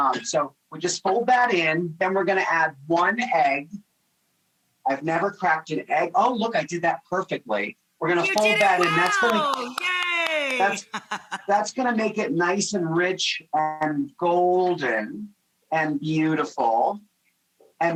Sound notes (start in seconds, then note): 11.1 claps